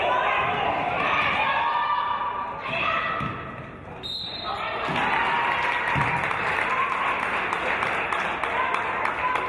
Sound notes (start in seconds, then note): 4.0 referee's whistle; 4.8 applause